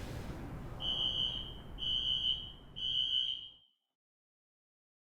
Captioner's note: alarm screeching